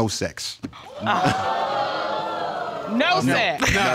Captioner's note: audience exclaiming